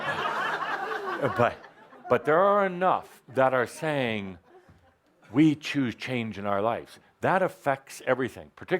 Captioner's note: laughter